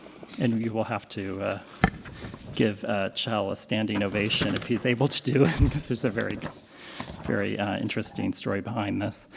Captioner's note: laughs